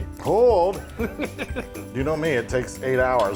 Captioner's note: laugh